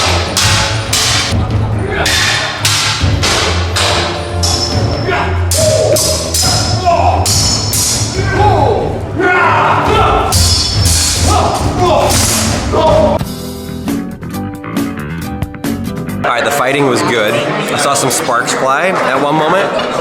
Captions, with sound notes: (knights shouting) (upbeat music) All right, the fighting was good, I saw some sparks fly at one moment.